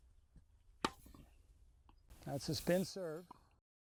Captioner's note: racquet hitting ball